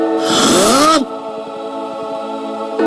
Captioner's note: roar